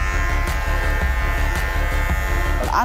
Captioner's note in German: Rasiergeräusch